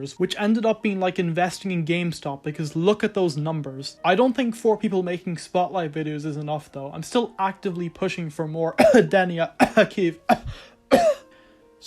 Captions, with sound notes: which ended up being like investing in GameStop because look at those numbers. I don’t think 4 people making spotlight videos is enough though, I am still actively pushing for more *cough* Denia *cough* Kyiv *cough* *cough*